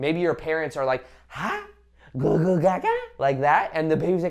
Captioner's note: imitating baby cooing